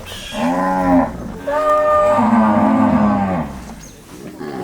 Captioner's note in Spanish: vacas mugiendo